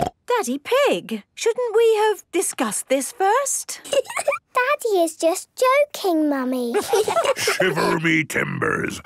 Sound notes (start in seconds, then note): 4.1 laugh; 6.9 menacing voice